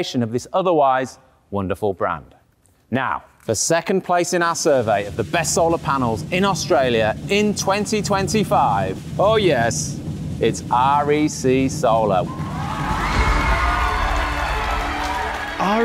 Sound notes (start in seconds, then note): 12.2 audience cheering and applauding; 12.8 soft music